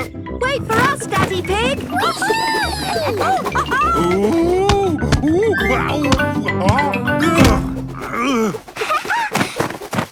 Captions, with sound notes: - Wait for us, Daddy Pig! Woo-hoo! - Wee! (laughing) - Oh! Ow! (laughing)